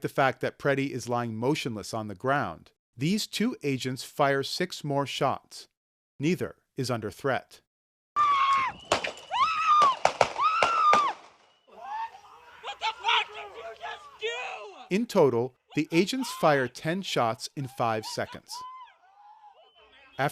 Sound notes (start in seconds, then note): 8.1 screaming; 9.8 gunfire, screaming